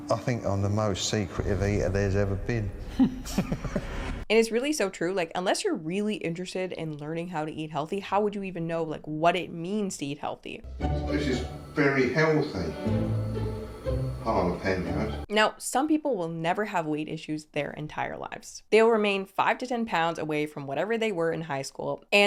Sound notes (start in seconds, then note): 2.9 laughing; 10.6 mellow music